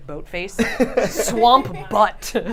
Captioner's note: laughter